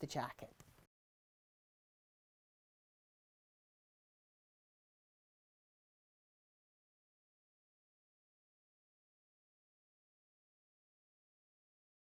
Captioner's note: no Sound Present